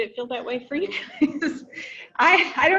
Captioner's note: giggles